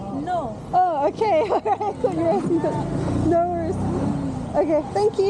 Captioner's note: laughing